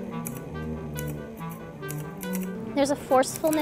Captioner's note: instrumental music; keying typewriter